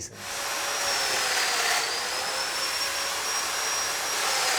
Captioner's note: equipment whirring